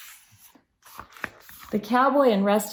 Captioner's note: turns page